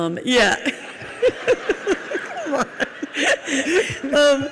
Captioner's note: audience laughs